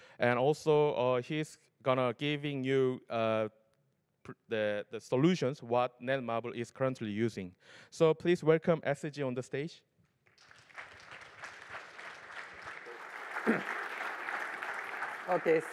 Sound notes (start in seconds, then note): 10.3 applause